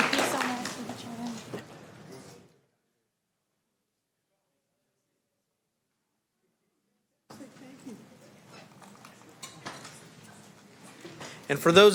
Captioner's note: applause